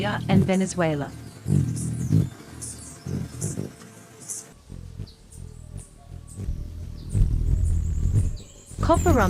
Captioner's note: birds chirping; bird's wing flapping